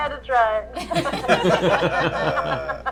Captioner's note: laughter